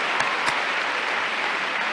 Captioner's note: laughs